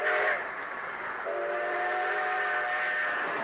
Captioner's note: train whistle blowing